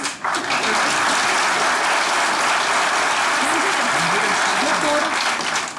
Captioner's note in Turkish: Alkış sesleri